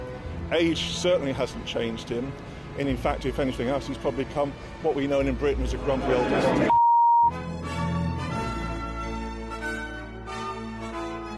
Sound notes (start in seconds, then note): 6.7 beep; 7.3 regal instrumental music